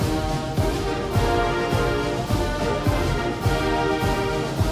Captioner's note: attendees applauding